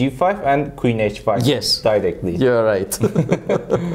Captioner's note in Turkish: Karşılıklı gülüşmeler